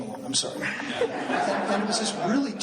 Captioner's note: laughing